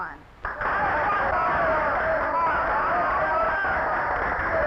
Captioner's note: audience cheering